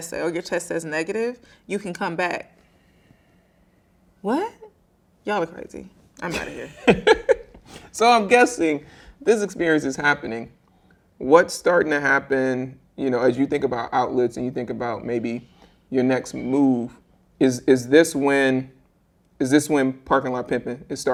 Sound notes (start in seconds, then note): 6.2 laughing